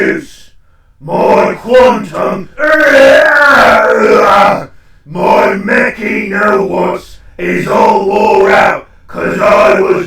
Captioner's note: yelling